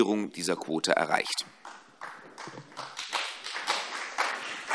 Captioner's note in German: Vereinzelter Beifall CDU und BÜNDNIS 90/DIE GRÜNEN